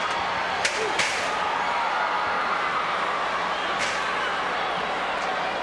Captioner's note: scaffold rattles